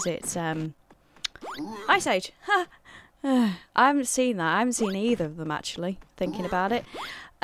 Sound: groans

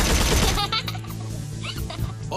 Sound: laughing

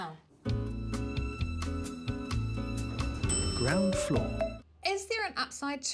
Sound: elevator music; elevator dings

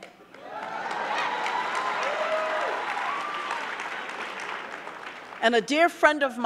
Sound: audience clapping; audience cheering

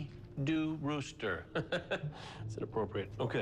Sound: chuckles

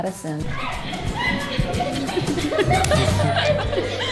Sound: girls cheering

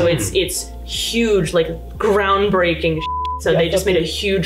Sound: beeps

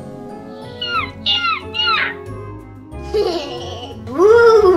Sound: bat screams; evil laugh

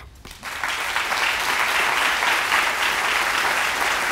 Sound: applause

